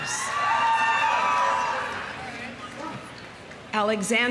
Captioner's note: audience cheering